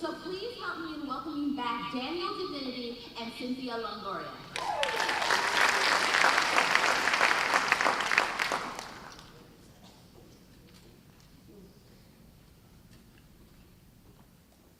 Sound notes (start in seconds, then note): 4.5 applause